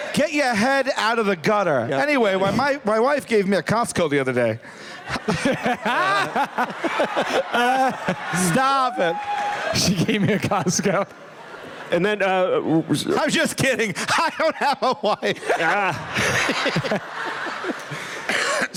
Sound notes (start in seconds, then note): 4.9 laughter; 13.8 laughing; 15.5 laughter